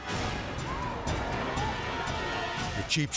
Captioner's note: people shouting